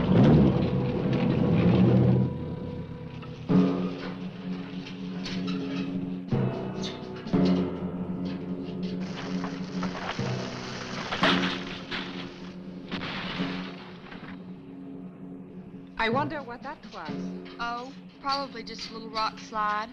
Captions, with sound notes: (engine cranks) (dramatic music) (branches snapping) (ground rumbling) - I wonder what that was. - Oh, probably just a little rock slide.